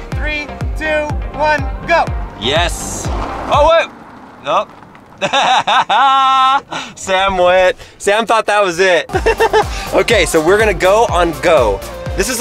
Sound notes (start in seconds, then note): 5.1 laughing